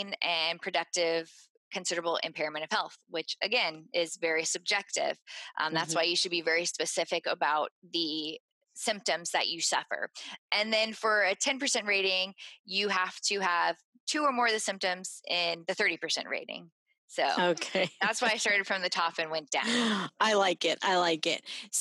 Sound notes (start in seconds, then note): 17.4 laughing